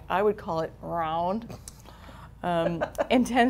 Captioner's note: laughing